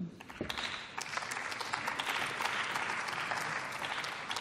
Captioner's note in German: Beifall